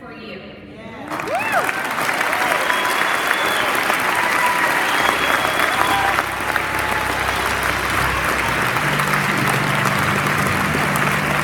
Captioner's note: applause